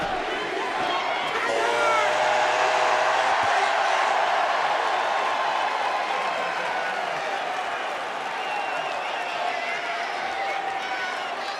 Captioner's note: crowd cheers